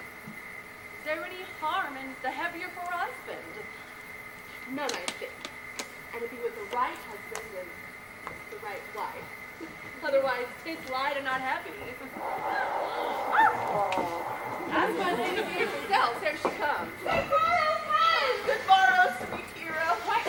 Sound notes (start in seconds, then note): 12.1 distant nose blowing